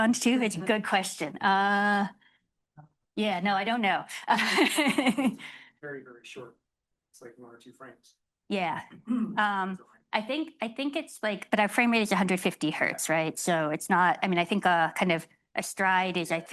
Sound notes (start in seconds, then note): 4.2 laughing